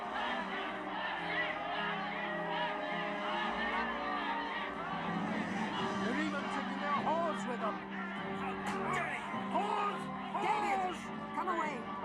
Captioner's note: applause